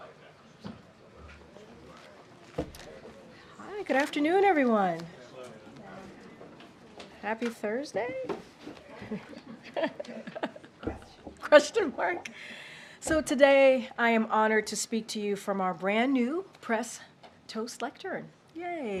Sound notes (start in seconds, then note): 8.9 laughs; 12.6 laughs